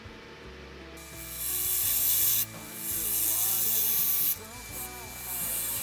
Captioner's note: machine whirring